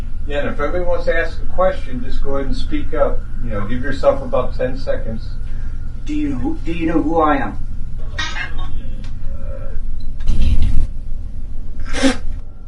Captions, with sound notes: - Yeah, and if anybody wants to ask a question, just go ahead and speak up. Give yourself about 10 seconds. - Do you know who I am? (EVP warbles)